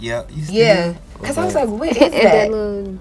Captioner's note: vocalizing